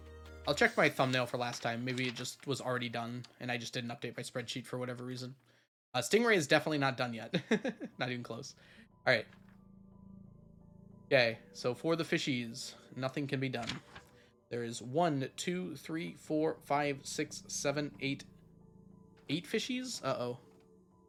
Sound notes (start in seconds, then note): 7.4 laughs